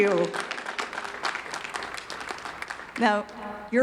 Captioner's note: audience clapping